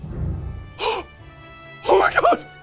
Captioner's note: gasp!